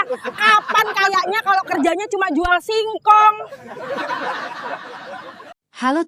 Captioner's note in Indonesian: tertawa